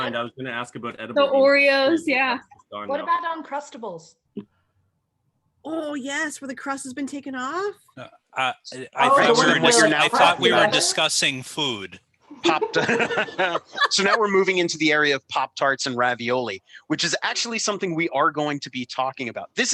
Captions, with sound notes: I was going to ask about edible people... Oreos. Yeah. ATTENDEE>> What about Uncrustables? Oh, Yes. Where the crust has been taken off. I thought we were discussing food. [laughter] So now we're moving into the area of pop tarts and ravioli, which is actually something we are going to be talking about.